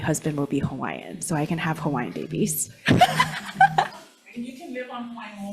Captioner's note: laughs